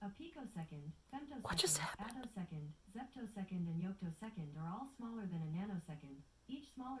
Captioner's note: whispers